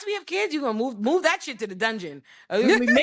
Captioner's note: both laughing